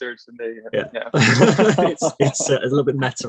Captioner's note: both laughing